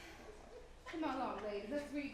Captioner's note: women chuckling